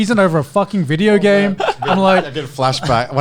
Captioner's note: laughing